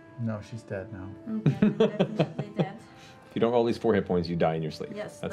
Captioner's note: laughs